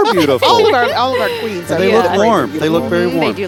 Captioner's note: laughing